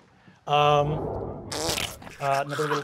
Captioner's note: dice clacking; squelching